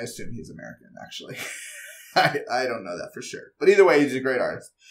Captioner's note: laugh